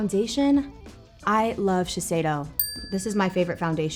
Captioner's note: bell pings